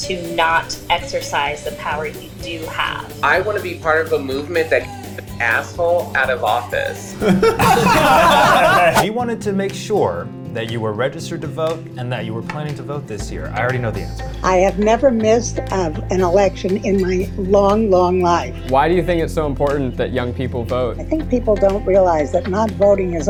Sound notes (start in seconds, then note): 7.2 everybody laughing